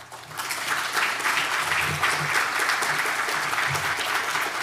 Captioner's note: audience applauding